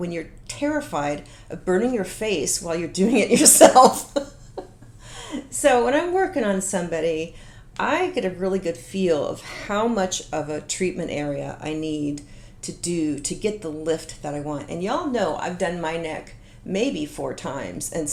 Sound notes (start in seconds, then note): 3.4 laughing